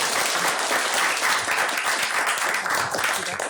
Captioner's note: applause